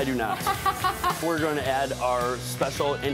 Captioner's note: laugh